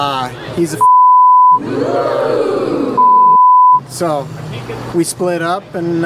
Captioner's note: beep